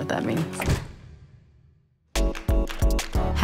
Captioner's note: door clicking